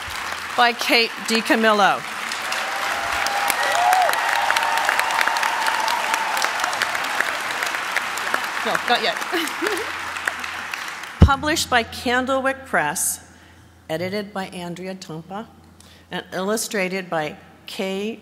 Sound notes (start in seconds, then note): 2.8 applause